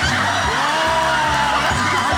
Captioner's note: audience laughing